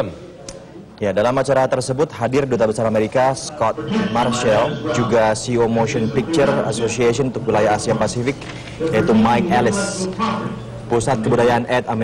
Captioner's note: non-english speech